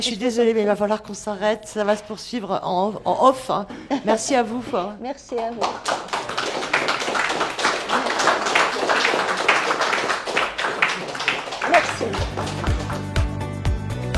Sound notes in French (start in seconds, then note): 10.8 applaudissements